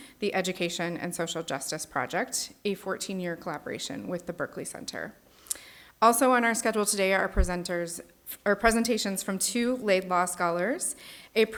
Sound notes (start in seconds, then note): none